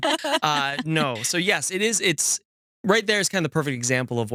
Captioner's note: laughing